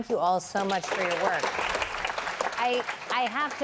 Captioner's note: applause